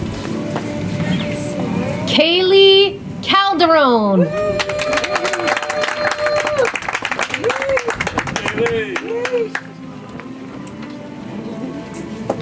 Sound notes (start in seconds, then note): 4.4 audience applauds; 9.6 soft music